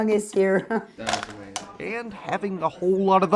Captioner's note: ice clinking